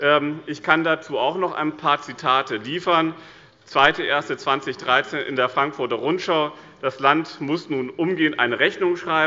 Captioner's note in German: none